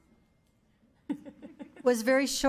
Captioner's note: laughing